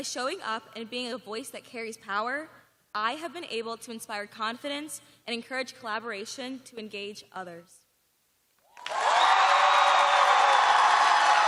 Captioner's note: cheers and applause